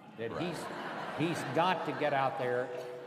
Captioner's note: laughter